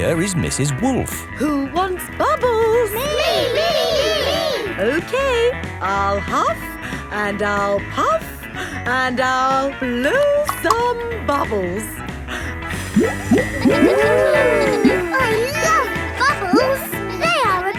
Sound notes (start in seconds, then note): 14.3 kids gasping and laughing